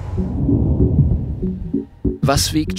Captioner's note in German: Wummern